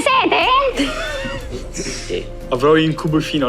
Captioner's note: laugh